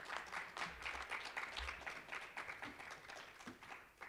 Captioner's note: applause